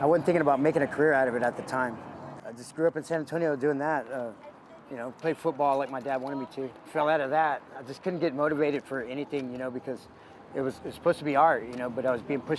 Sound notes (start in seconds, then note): none